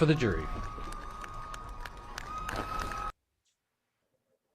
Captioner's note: distant cheering